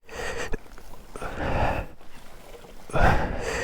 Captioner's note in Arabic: يلهث; شخير